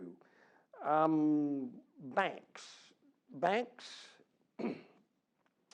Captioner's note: cough